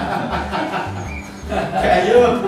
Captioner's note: laughter; mocking laughter